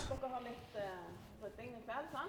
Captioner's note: speaking in foreign language